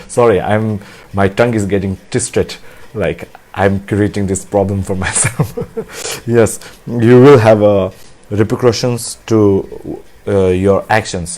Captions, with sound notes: Sorry, my tongue is getting twisted. Like I'm creating this problem for myself. (laughs) Yes, you will have repercussions to your actions.